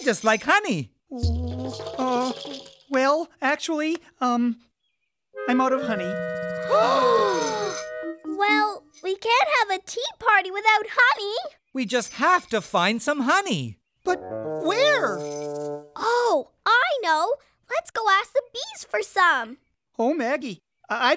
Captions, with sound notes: OH... UH... WELL, ACTUALLY, UM... I'M OUT OF HONEY. Beast & Maggie: [ Gasps of shock ] WELL, WE CAN'T HAVE A TEA PARTY WITHOUT HONEY. WE JUST HAVE TO FIND SOME HONEY. BUT WHERE? OH! I KNOW. LET'S GO ASK THE BEES FOR SOME. OH, MAGGIE, I-I DON'T KNOW.